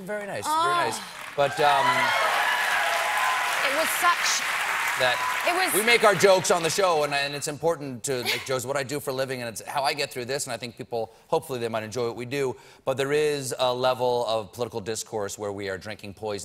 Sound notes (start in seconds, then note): 5.6 applause